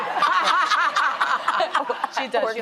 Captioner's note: laughing